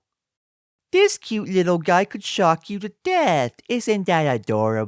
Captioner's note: cutesy voice